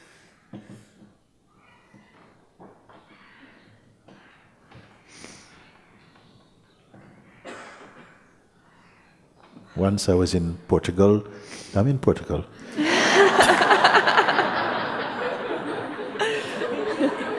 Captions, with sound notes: Once I was in Portugal... I'm in Portugal! [Laughter]